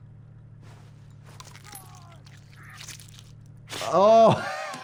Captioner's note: player character crunches and screams